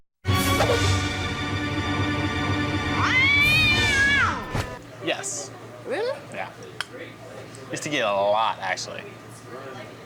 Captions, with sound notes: (tense music) (angry meowing) - Yes. - Really? - Yeah. Used to get it a lot, actually.